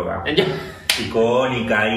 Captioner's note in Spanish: risas